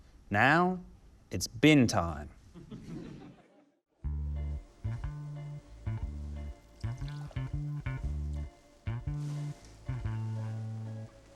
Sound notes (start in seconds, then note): 2.4 laughter; 6.8 water sloshes